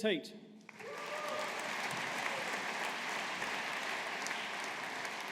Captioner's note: audience applauding